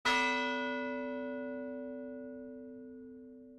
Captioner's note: bell tolls